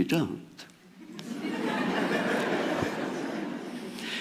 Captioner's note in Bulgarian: Смях